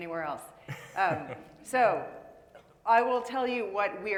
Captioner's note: laughing